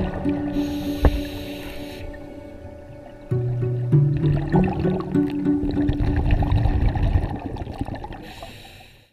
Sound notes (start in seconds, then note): 0.0 playful ambient music; 3.9 water gurgles